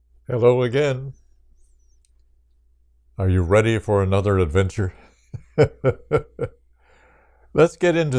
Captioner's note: laughs